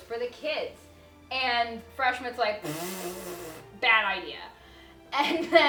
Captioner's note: blows raspberry